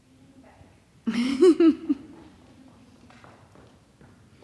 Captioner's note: ladies laughing